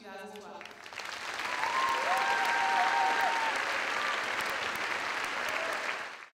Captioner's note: crowd applauds